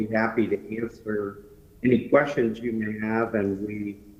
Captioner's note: ~distortion~